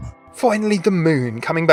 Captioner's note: voiceover